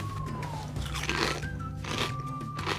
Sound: loud crunching

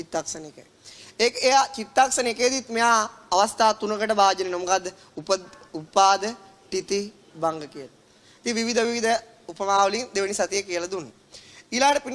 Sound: Static

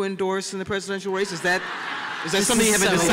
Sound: laughter

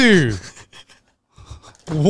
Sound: laughs

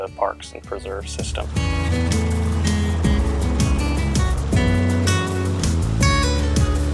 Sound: helicopter blades spinning

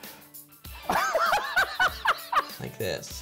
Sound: laughs

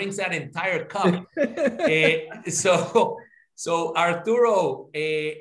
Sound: laugh

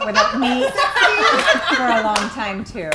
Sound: laughing

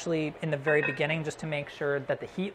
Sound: clatters

